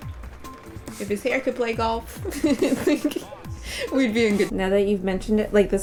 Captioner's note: laughing